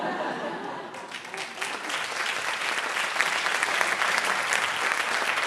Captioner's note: applause